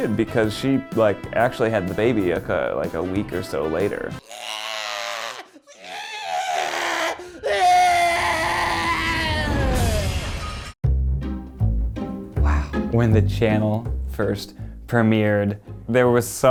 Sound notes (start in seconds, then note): 4.2 baby screaming; 10.9 gentle steady music